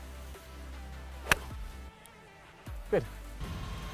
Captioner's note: golf club hitting ball